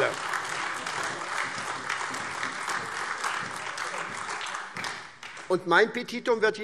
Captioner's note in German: Beifall SPD und AfD